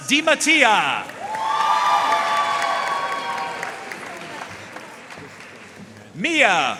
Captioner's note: audience cheering and applauding